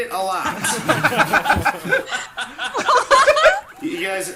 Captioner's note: group laughs